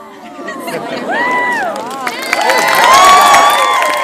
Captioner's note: applause